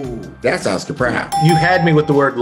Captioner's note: dings